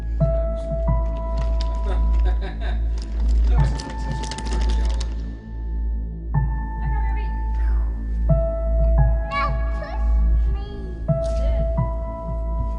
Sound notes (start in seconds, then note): 0.3 adults talking; 7.1 children talking